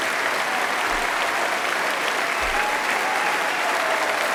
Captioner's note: applause